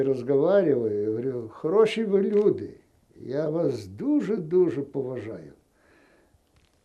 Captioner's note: ukrainian